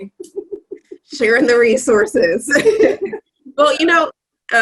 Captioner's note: laughs